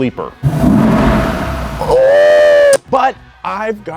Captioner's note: engine roaring smoothly